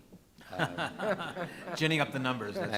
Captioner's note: audience laughs